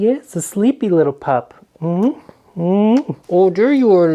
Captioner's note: kisses